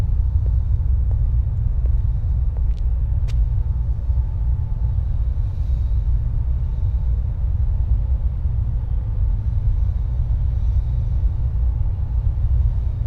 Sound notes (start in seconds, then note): none